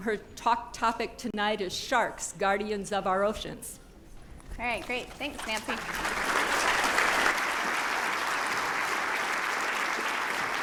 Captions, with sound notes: Her talk topic tonight is Sharks, Guardians of our Oceans. All right. Great. Thanks, Nancy. [APPLAUSE]